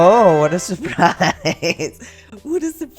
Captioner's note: laugh